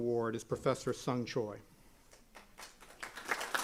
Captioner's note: applause